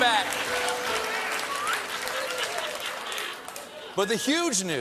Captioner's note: piano riff; laughter